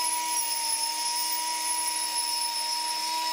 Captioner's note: machine whirring